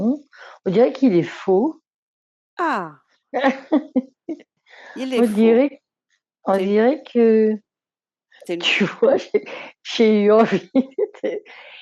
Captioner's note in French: rires